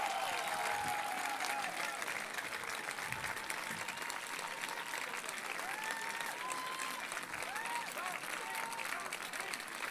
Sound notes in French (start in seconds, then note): 5.7 Applaudissements